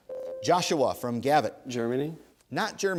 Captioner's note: ding